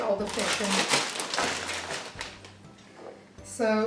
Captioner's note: bag continues to rustle